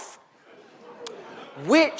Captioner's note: audience laughs